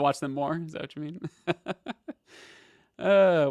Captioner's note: laughs